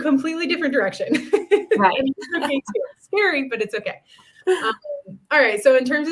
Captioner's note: laughter